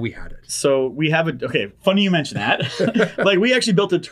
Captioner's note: chuckles